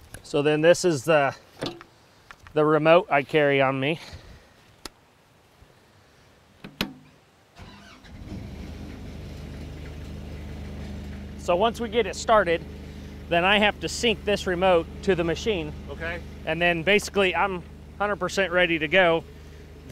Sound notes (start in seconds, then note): 5.1 buckle clicking; 6.8 button clicking; 7.7 motor humming